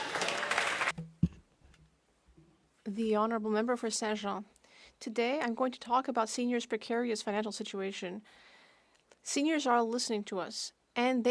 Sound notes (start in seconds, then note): 5.1 speaking French